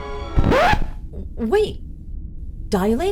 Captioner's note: record scratch